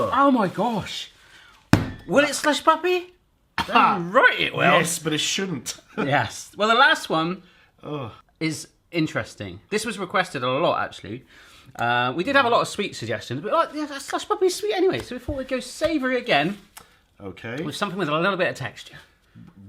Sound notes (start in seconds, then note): 1.6 slap